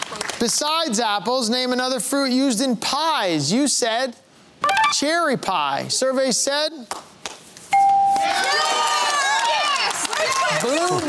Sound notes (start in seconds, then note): 8.2 cheering